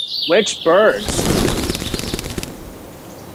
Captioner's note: wings flapping; birds chirping